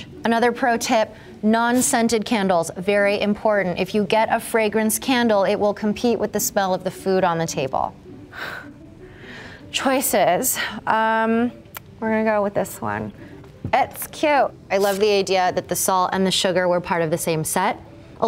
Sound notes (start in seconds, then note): 8.3 creator exhaling